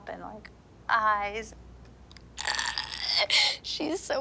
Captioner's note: groans